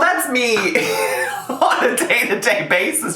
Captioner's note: laughs